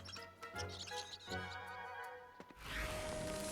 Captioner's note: chittering